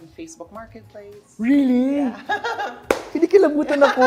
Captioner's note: giggles